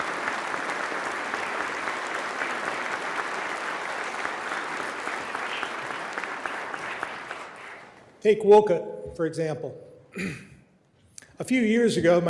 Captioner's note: applause